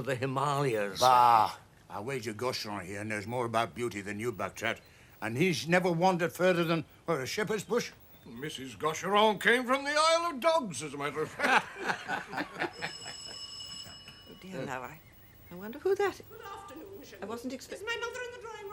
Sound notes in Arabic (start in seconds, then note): 10.9 يضحك; 12.0 حلقات جرس الباب